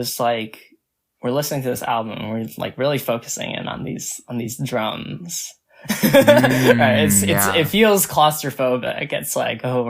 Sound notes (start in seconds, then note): 6.0 laughs